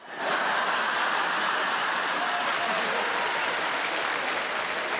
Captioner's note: crowd laughs and applauds